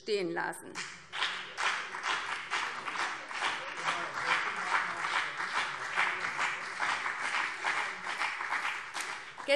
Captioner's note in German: Beifall BÜNDNIS 90/DIE GRÜNEN